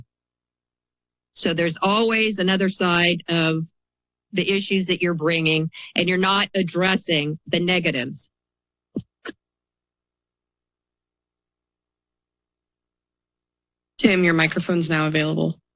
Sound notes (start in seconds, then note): 0.2 pause; 8.5 silence